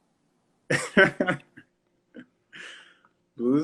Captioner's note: laughs